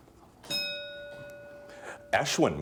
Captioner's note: bell dinging